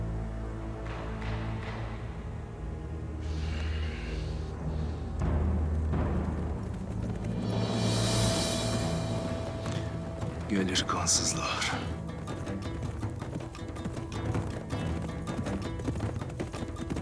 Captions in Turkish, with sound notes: (At nalı sesleri) Gelir kansızlar.